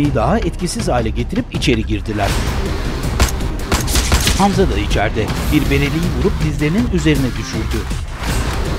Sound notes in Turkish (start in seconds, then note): 3.0 Silah sesleri